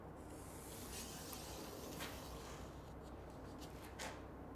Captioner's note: marker rubbing